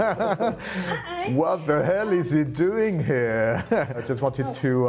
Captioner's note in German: lacht